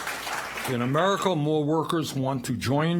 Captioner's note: applause